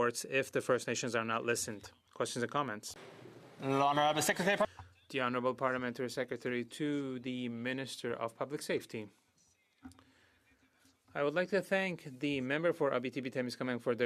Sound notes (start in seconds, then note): 7.4 speaking French